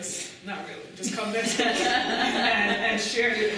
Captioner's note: laughter